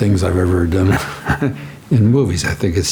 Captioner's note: Harrison chuckling